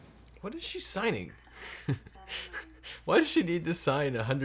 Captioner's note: laughs